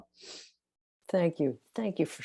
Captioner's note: sniffs